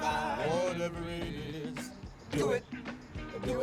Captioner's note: deep voice